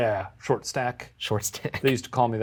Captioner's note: laughs